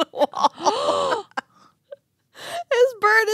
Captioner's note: gasps